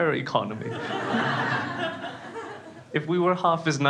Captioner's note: crowd laughs